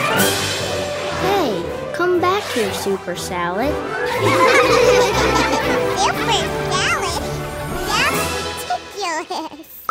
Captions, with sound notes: Hey, come back here super salad! [laughing] Super salad? That's ridiculous!